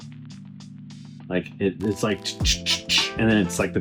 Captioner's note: mouth sounds